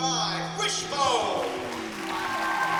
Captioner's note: cheering